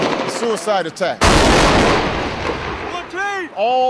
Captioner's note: gunshots blasting; explosion blasts